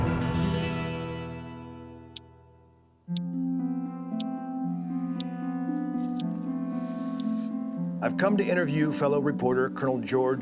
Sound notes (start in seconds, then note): 3.0 watch ticking